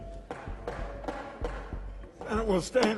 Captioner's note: gavel banging